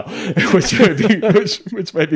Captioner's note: hosts laughing